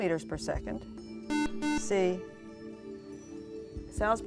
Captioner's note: buzzer